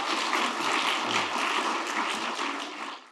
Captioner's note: audience clapping